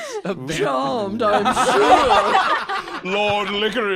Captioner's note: all laughing